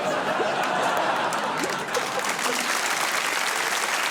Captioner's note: laughter